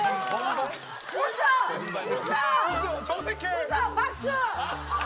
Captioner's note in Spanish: Aplausos